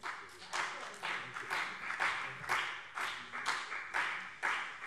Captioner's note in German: Beifall BÜNDNIS 90/DIE GRÜNEN